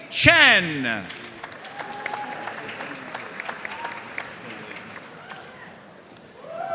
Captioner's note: audience cheering and applauding